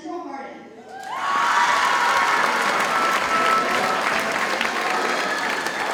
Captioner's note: audience cheers and applauds